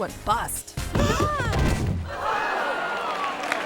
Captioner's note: bodies thudding; audience clamoring; audience gasping